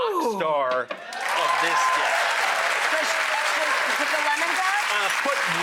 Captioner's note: audience claps